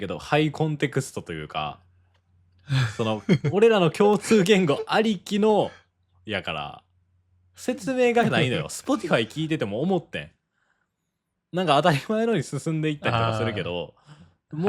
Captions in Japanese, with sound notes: [笑い] Spotify聞いてても思ってん。 なんか当たり前のに進んでいったりとかするけど、